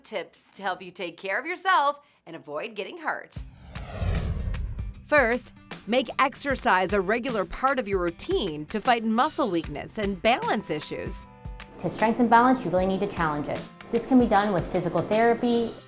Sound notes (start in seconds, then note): 3.4 whooshing